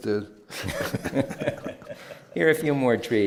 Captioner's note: laughs